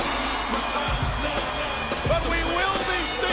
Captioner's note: crowd cheering; upbeat music